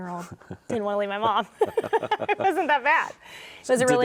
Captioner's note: both chuckle